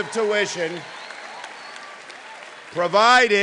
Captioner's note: cheering